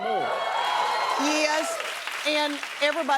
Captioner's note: cheers and applause